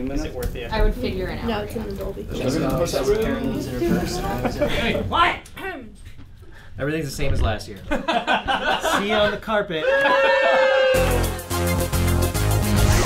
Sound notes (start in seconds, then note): 2.3 room chatter; 7.9 laughing; 9.8 cheering